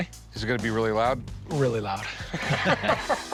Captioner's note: laughter